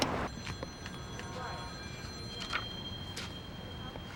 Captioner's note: telephones ringing